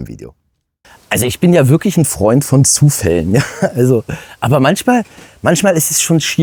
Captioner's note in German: gelächter